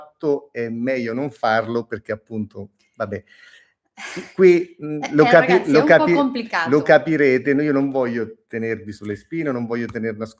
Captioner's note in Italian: risate